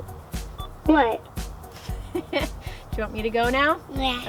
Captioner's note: laughing